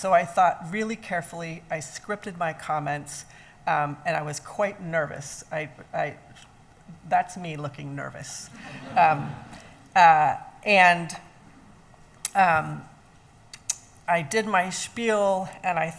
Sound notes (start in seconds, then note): 8.6 laughing